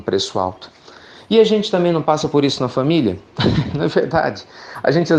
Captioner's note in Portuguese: Risos